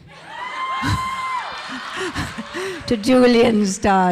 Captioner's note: audience cheering; audience laughing